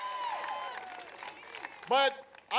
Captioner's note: applause